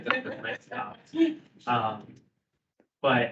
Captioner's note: speakers laughing